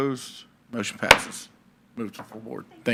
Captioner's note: gavel clacks